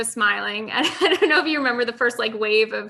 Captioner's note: laughs lightly